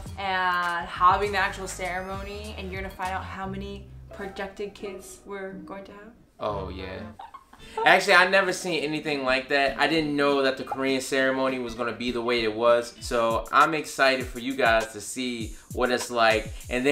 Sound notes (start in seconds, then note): 7.0 laughs